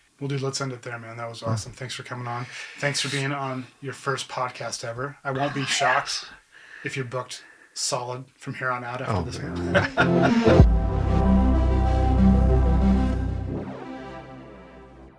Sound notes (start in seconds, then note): 9.0 laughs; 9.1 upbeat music